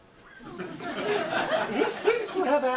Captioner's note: audience laughs